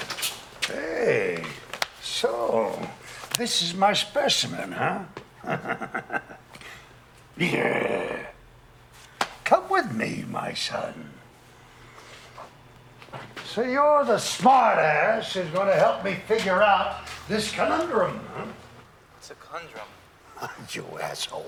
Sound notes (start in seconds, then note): 5.3 chuckles; 5.8 growls; 20.2 chuckles